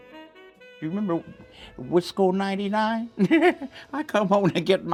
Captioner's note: laughs